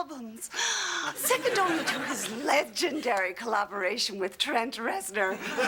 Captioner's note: gasp